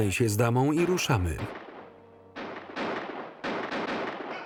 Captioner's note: guns firing